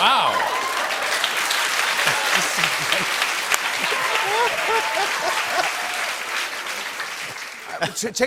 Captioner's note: cheers and applause